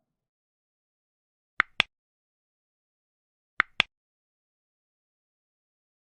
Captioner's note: clicking